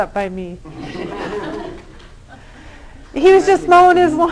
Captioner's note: laughter